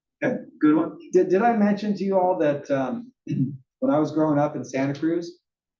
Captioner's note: cough